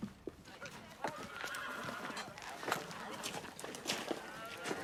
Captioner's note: horse neighing; crowd chattering